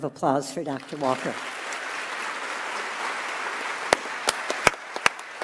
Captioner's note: audience applauds